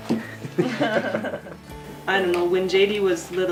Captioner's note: laughing